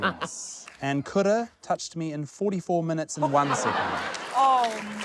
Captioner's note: chuckles; laughter